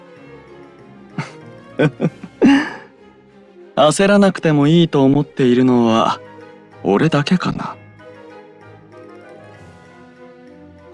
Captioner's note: laugh